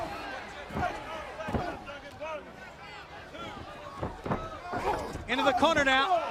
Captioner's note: crowd chatter